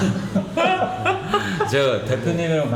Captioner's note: laughing